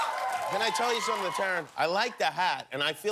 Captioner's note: cheers and applause